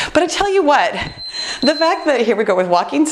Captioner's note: beeping